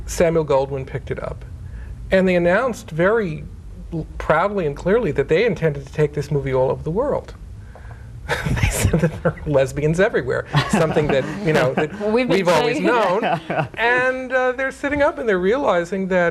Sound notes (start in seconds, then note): 8.3 chuckling